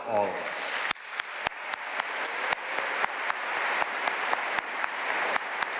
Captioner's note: audience cheering and applauding